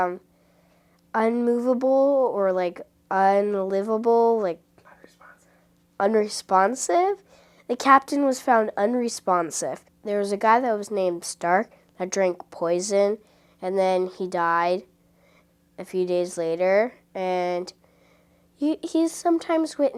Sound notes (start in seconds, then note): 4.1 whispers